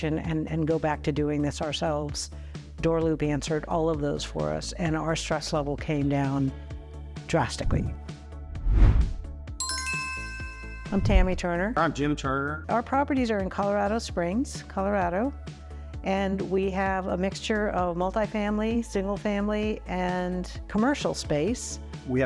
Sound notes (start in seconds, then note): 8.5 logo whooshing; 9.6 bell dings